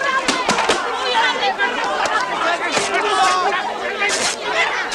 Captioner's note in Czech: hluk rvačky